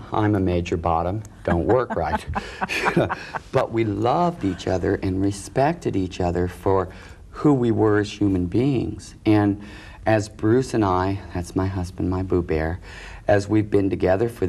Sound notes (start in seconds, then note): 1.4 laughing